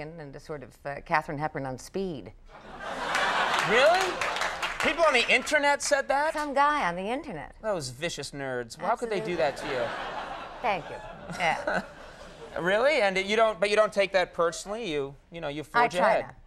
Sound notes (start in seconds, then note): 2.6 audience laughing; 9.0 audience laughing